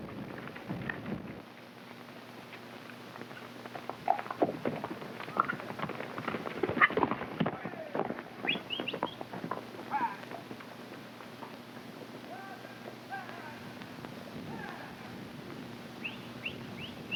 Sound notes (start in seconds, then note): 0.1 hooves clopping; 8.4 cowboys whooping and whistling